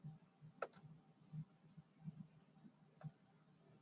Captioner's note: mouse clicks